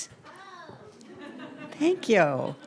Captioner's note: audience laughs